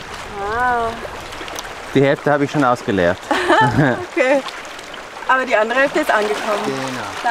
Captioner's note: laughs